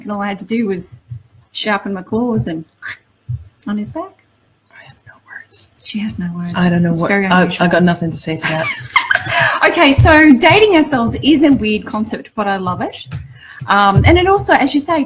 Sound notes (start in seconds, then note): 8.4 laughs